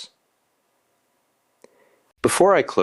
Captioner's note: pause